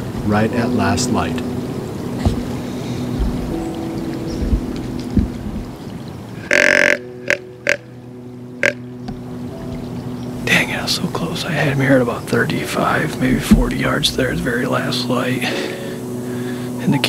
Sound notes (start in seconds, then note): 2.2 soft music; 6.4 sound of grunt call